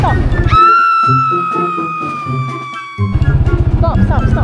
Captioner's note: scream